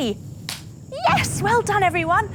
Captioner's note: claps